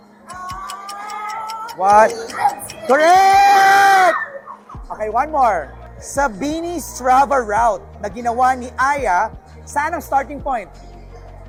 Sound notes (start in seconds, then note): 0.2 clock ticking sfx; 2.8 squeals loudly